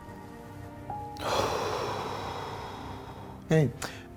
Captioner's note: deep Exhale